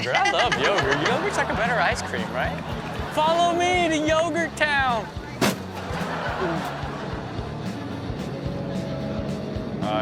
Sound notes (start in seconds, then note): 5.7 everyone laughs; 6.0 upbeat music continues